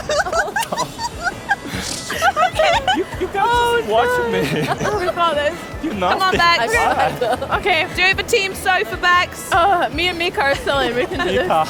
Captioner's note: laughter